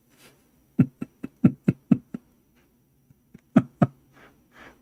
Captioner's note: Ketawa